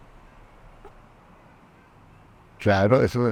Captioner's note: laughs